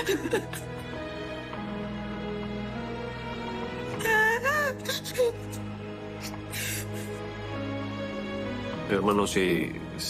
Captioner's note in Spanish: Sollozos